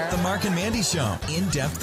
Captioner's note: voiceover